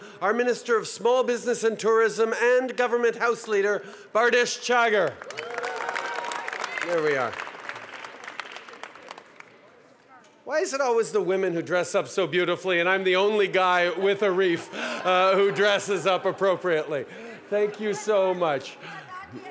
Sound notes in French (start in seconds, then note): 5.1 Acclamations et applaudissements